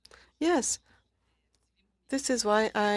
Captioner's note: speaking french